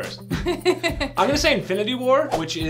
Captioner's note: laughs